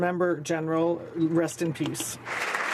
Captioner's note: speaking French